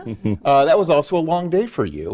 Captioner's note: panelists chuckling